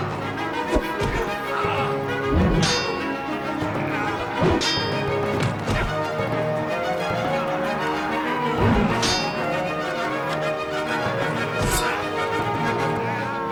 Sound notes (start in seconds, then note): 0.5 grunting; 2.3 metal clanging; 8.1 wooshing; 11.8 thud